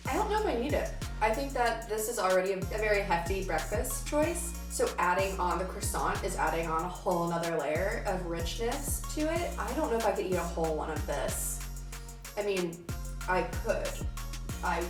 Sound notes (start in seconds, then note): none